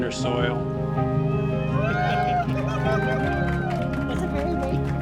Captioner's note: cheers and applause